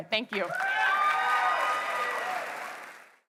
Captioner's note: applause